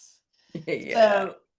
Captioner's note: laughs